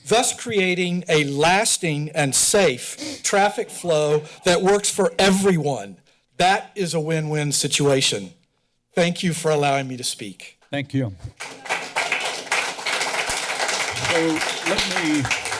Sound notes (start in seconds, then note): 11.3 clapping